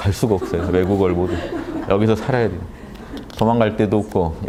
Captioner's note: laughters